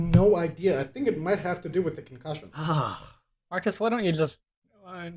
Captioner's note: huh